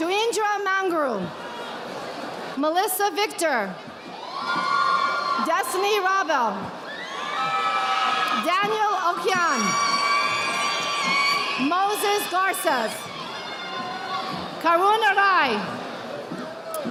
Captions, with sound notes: Chuindra Mangrum. Melissa Victor. (audience applauding) Destiny Rabo. Daniel Okian. (audience applauding) Moses Garces. Karuna Rai.